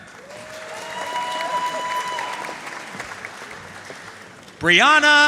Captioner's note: audience cheering and applauding